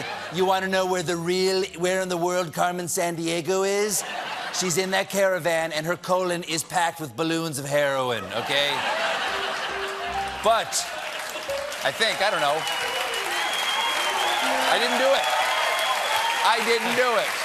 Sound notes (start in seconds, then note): 8.1 laughter